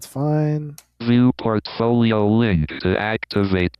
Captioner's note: automated Voice